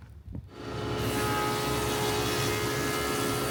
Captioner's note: planer buzzing